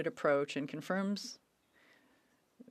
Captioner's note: speaking French